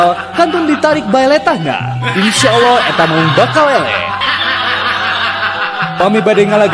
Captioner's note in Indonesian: tertawa